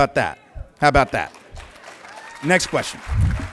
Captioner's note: applause